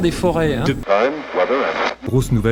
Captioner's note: radio noise